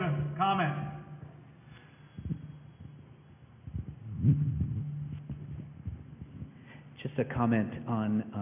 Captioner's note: microphone noises